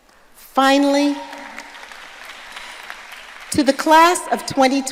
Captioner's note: audience applauding